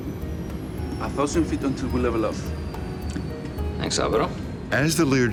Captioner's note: speaking foreign language